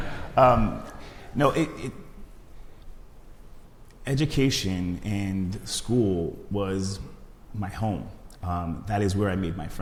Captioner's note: laughs